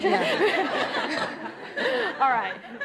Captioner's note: audience laughing